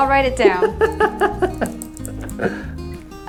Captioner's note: laughs